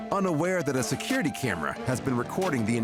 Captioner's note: none